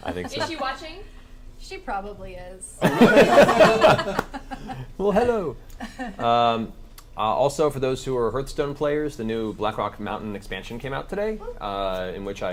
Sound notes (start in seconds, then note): 2.8 all laugh